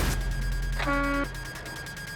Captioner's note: horn honking